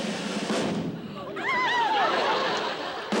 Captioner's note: gasps